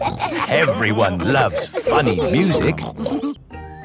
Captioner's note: laughter